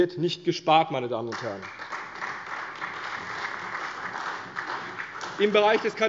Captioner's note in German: Beifall bei der CDU und dem BÜNDNIS 90/DIE GRÜNEN